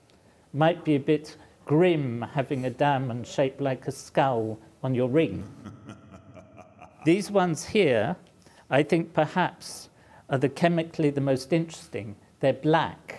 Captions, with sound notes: Might be a bit grim having a diamond shaped like a skull on your ring. [subtle creepy laughing sound in background] These ones here. I think perhaps are the chemically the most interesting. They're black